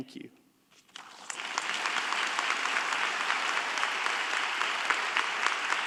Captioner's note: audience applauding